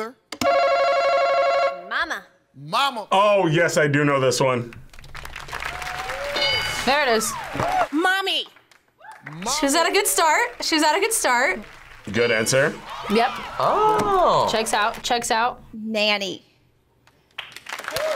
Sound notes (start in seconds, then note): 0.4 buzzer rings; 5.2 audience cheers; 6.3 bell rings